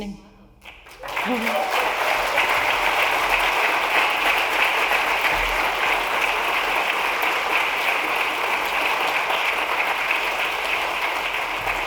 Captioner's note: applause